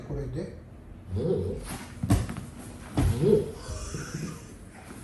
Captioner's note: laughs